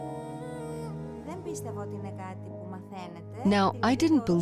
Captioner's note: speaking greek